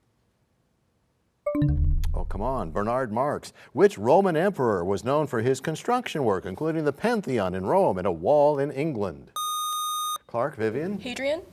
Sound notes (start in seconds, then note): 2.7 bell chimes, time expires